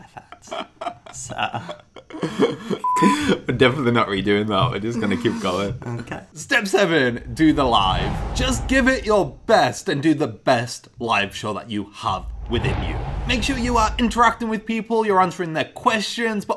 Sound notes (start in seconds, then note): 0.0 laughs; 2.6 beeping